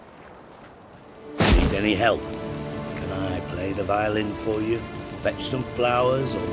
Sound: flames burst, crackle

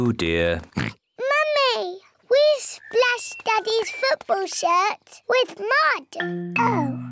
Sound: oinks

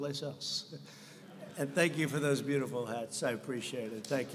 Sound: laughter

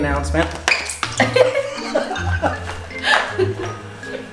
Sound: laughing

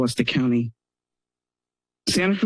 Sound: pause

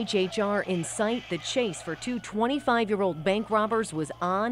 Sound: siren

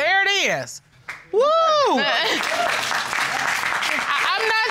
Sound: laughs

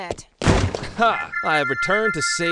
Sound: door slams

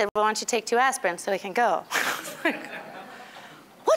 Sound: all laughing

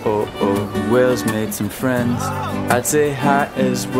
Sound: shouting

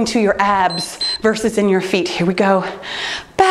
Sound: timer beeps

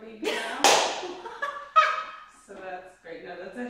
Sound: laughs

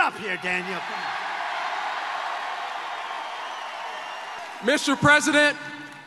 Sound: audience cheering and applauding

